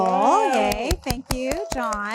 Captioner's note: all applauding